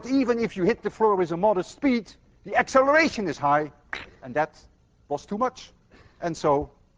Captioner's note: blows raspberry